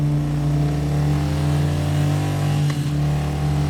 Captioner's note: roaring motor